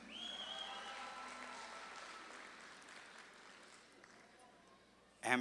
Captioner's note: audience claps and cheers